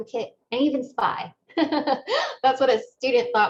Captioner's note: laughter